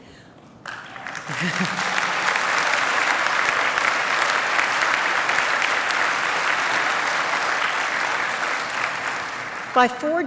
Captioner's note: applause